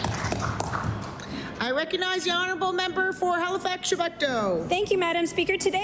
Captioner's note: applause